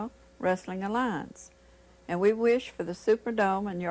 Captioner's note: none